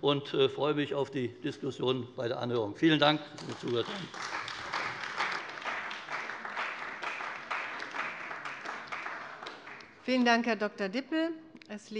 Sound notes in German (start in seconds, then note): 3.3 Beifall bei der CDU